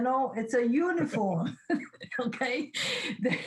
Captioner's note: laughs